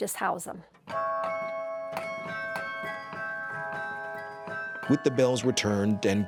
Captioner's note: bells ringing